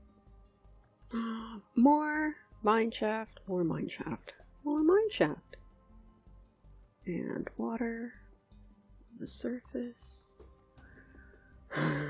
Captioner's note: sigh